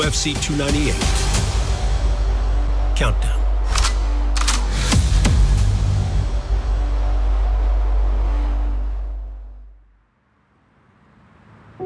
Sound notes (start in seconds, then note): 4.3 gun cocking sound effect